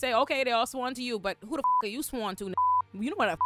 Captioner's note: beep